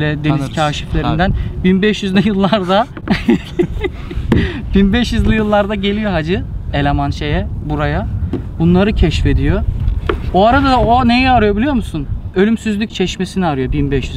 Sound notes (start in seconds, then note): 2.2 chuckles